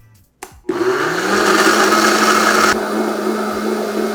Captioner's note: Vitamix whirring